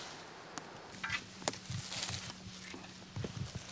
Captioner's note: scraping